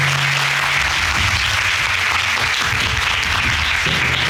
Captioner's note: applauding